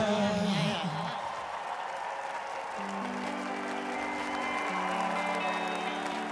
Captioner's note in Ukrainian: оплески